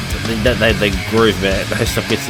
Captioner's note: screaming and groaning